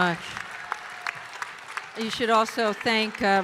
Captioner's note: audience cheering and applauding